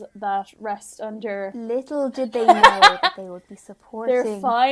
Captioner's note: laughing